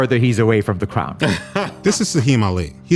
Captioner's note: laughing